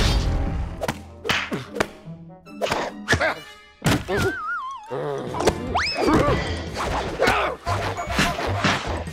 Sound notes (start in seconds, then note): 1.4 grunting